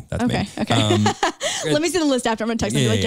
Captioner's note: chuckles